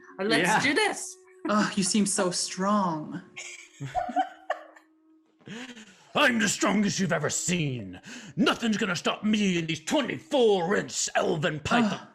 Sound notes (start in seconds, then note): 3.4 laughs